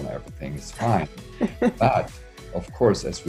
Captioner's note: chuckles